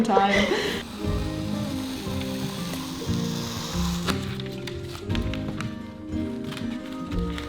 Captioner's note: gentle bright music; scissors scraping